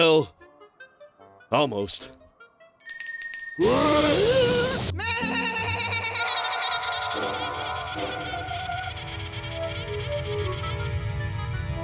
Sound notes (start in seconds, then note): 2.8 bell rings; 5.0 bleating loudly